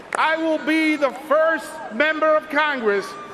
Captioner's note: cheers and applause